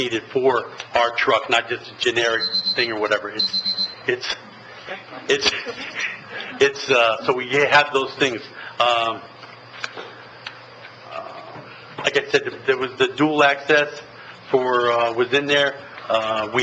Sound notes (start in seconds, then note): 2.2 alarm beeps